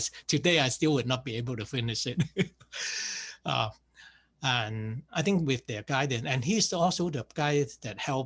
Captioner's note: laughs